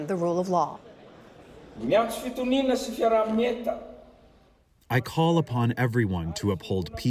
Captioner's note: through translator